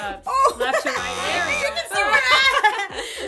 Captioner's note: buzzer sounds; laughter